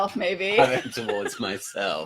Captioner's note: laughing